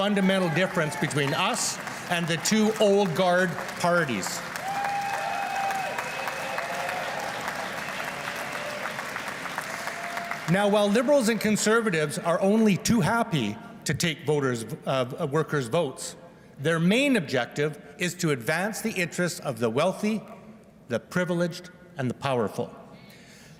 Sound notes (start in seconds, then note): 11.1 applause